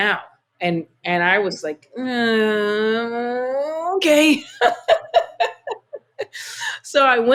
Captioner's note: laughter